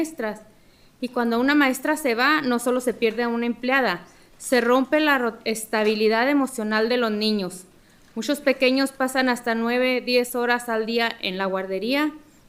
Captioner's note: speaking spanish